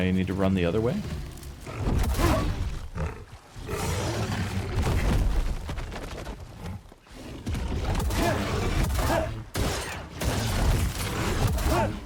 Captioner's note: grunting